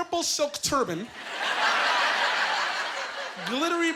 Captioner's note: laughing